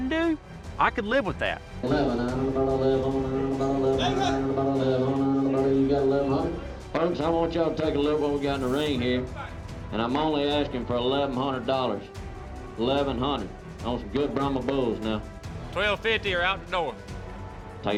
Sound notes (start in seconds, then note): 1.5 auctioneering